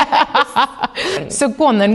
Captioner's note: chwerthin; laughing